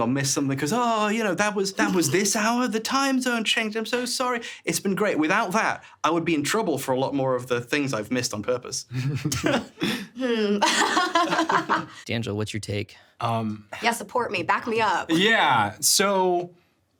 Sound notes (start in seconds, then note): 8.9 chuckling; 10.2 laughing